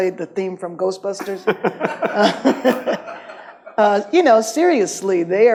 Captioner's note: audience laughs